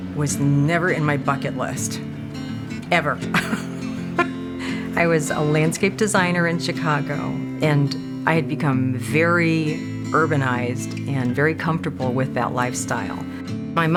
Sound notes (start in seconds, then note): 3.1 laughs